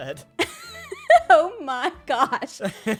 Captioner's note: laughs